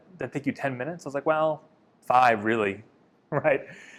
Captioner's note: laughs